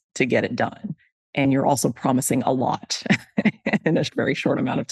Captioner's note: laughs